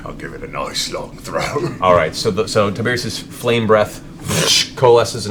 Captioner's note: fsssh